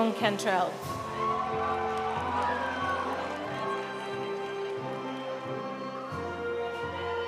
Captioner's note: audience cheering; audience applauding